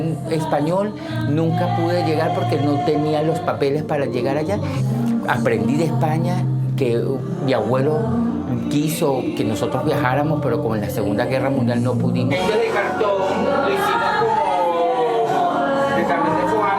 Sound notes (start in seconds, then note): none